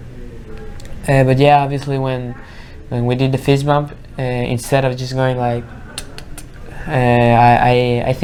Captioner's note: clicking noises